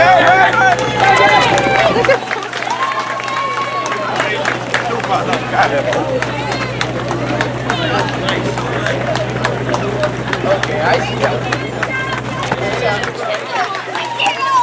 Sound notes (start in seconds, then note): 1.6 applause